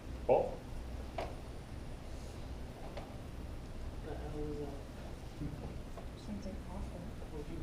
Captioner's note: background talking